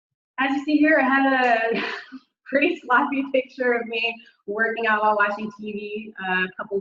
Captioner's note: chuckles